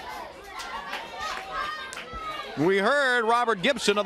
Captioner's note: crowd cheering